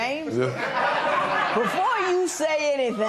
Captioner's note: laughter